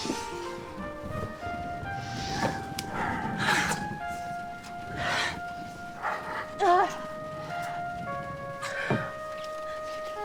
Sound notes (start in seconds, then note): 3.5 heavy breathing; 8.1 dramatic music